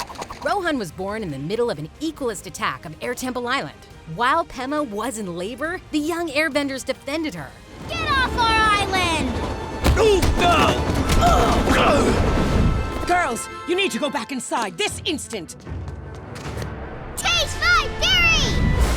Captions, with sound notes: Rohan was born in the middle of an Equalist attack of Airtemple Island. While Pema was in labor, the young airbenders defended her. Get off our island! [grunting] Girls, you need to go back inside this instant! Taste my fury!